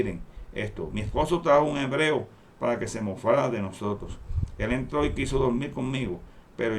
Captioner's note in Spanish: Hebreo